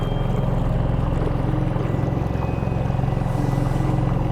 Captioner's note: eerie music continues; boat engine purring